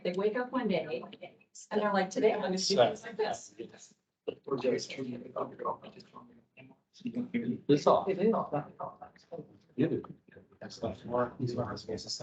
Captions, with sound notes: they wake up one day and they're like, today, I'm going to speak things like this. [indistinct chatter]